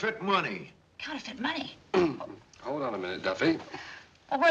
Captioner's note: clears throat